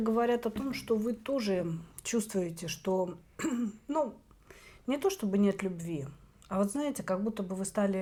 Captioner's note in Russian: откашливается